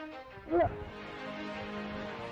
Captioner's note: grunting